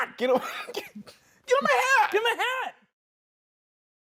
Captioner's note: laughs